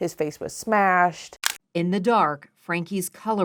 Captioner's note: camera shutter clicks